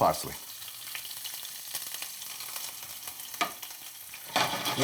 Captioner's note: oil sizzling